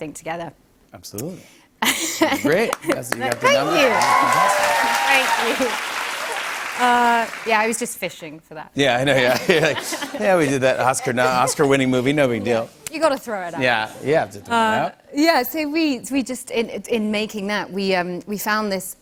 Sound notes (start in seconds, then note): 3.3 cheers and applause; 9.2 laughter